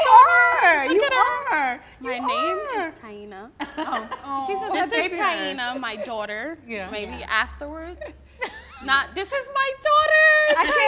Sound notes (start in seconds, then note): 3.6 laughing